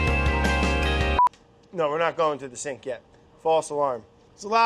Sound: beeps

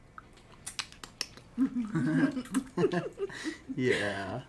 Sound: giggling

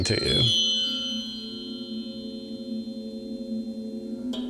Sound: chiming

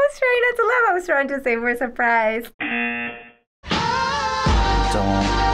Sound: buzzer rings

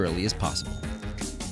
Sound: upbeat music; ding

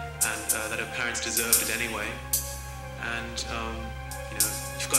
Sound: voiceover

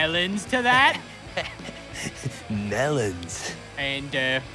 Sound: laughing

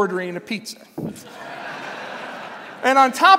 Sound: laughter

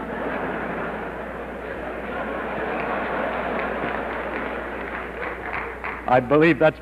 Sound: audience laughter

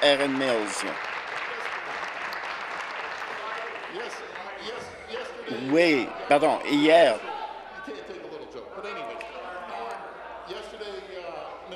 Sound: applause

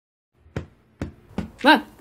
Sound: ball noises

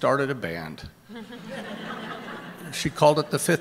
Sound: laughter

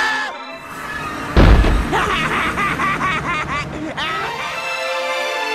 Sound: crazy laughter

